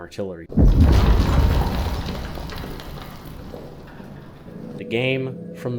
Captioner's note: Impact and explosion from above the Bunker, shaking and settling of dust